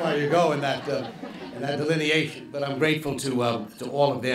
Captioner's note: laughter